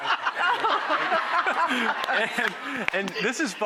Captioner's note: laughter